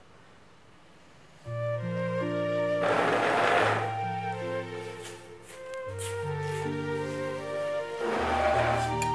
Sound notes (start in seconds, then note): 1.9 dramatic music playing; 2.8 chair creaking; 7.8 chair creaking